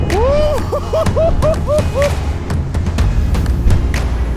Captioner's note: whooping